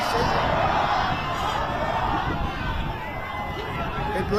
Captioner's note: crowd chanting